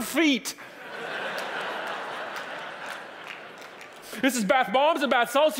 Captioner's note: audience laughing